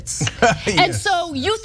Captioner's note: laugh